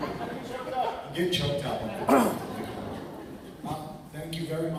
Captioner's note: laughter; laughter